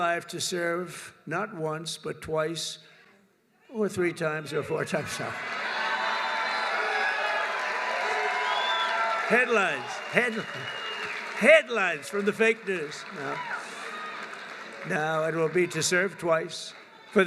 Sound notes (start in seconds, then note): 5.8 laughs; 8.3 applause